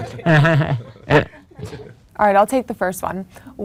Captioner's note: laughs